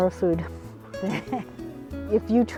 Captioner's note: laughter